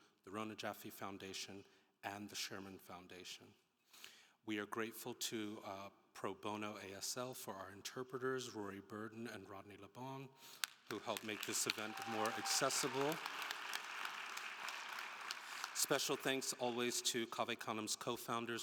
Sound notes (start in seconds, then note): 13.3 attendees applauding and cheering